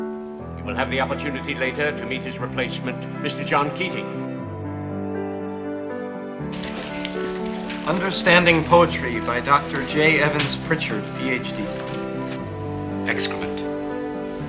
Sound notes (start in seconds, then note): 6.5 papers rustling